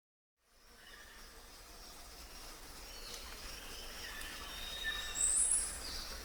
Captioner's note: birds chirping; crickets chirping